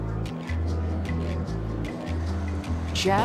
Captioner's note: woman speaking over P.A. system